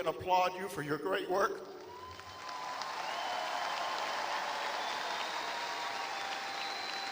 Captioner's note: applause